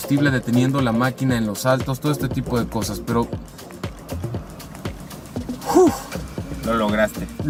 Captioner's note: exhales